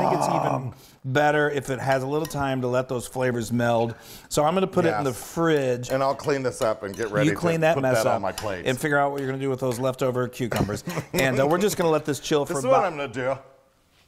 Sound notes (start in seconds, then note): 10.7 laugh